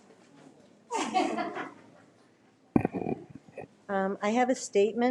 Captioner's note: people laughing